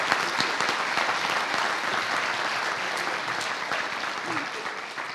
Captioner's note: applause